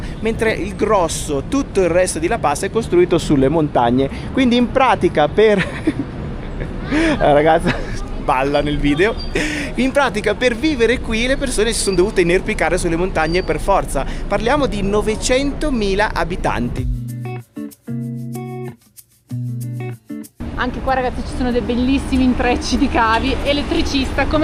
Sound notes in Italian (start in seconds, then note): 5.5 risate